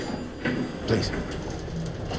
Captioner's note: door opening